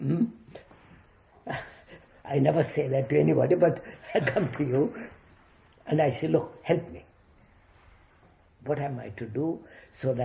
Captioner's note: laughs